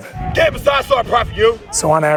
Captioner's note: yells instruction